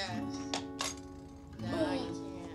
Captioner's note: Pop-O-Matic clicks